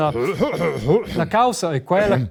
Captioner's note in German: räusper